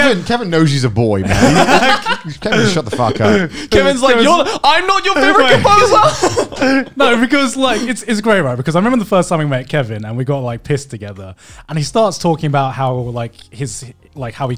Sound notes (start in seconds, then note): 1.2 men laughing; 5.0 laughs